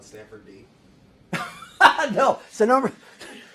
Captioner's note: laugh